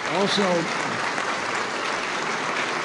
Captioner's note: applause